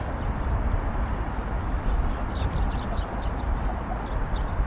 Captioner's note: birdsong